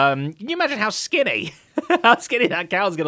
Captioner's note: laughs